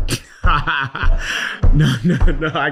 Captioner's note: laughing